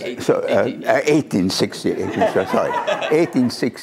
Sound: laughter

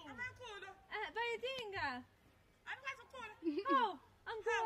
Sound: women speaking in native language

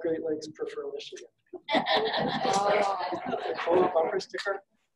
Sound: audience laughing

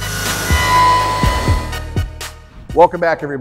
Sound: machine whirring

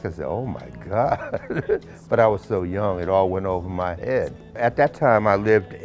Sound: laughs

